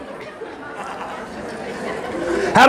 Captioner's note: audience laughing